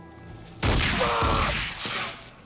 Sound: gunshots

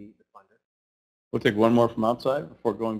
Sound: voiceover

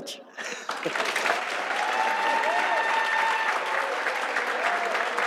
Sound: audience applauds

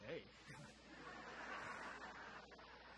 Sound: audience laughter

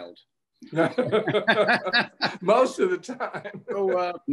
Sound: both laughing

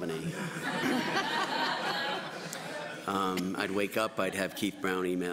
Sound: laughter

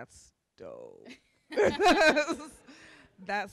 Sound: laughter

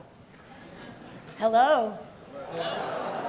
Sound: audience laughs

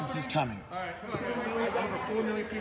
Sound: crowd murmuring

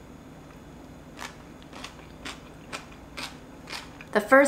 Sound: food crunching

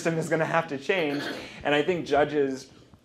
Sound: laughter

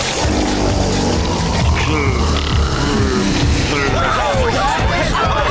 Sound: yawning

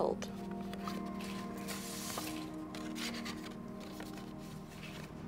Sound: paper note sliding

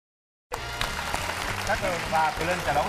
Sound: applause

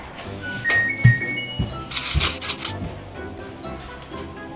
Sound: machine beeps

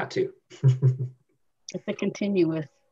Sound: laughs

